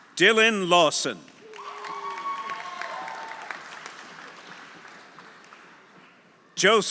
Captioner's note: audience applauding; audience cheering